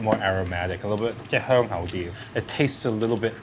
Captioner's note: speaking foreign language